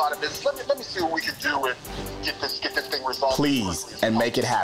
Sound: man speaking on phone

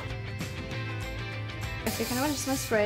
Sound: spraying

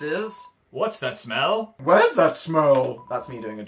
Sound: weird voice

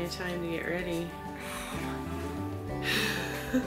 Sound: groans; laughing

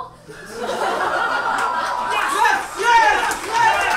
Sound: audience laughs

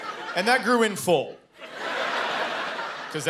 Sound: laughter

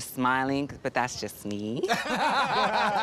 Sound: laughter

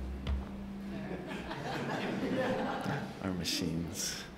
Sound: laughing

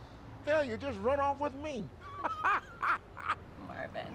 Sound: laughs

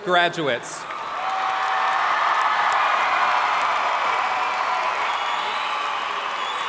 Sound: audience cheering and applauding

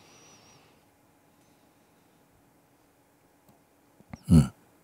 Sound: silence

